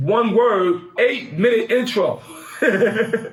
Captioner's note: laughs